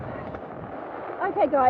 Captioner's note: sound of heavy rain